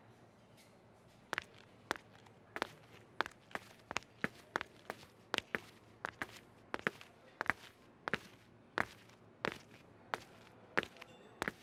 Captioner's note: SFX: footsteps on tile